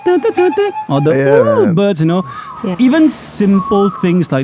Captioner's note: mimics Asian Koels' calls